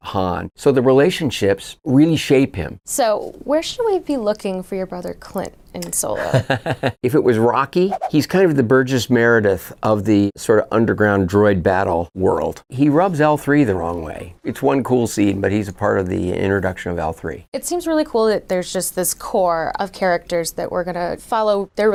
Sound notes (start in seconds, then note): 6.2 laughing